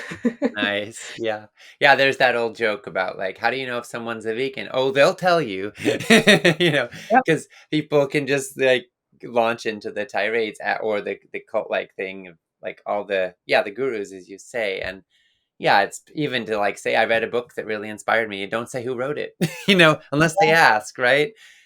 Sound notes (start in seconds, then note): 0.0 laughs; 5.7 laughing